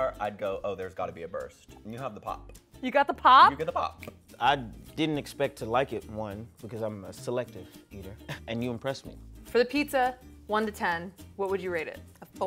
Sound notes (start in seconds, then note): 4.0 snapping fingers